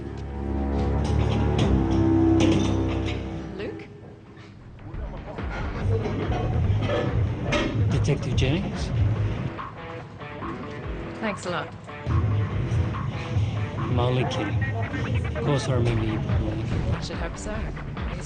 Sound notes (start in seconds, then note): 0.0 ominous music; 2.3 weights clink; 9.7 upbeat rock music